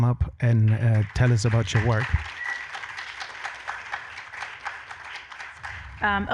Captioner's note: audience applauding